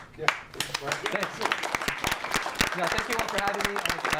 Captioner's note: audience applause